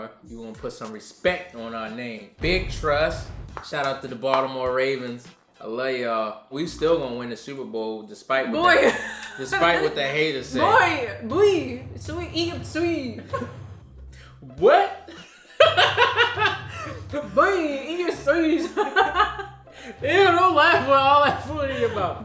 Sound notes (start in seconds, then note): 15.0 laughs; 18.6 laughs